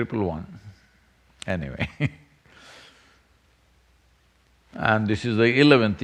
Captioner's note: laughs